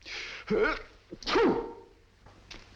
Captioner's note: sneezes